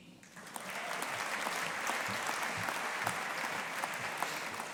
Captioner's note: audience applauding